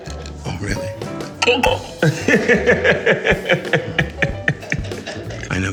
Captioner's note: laughing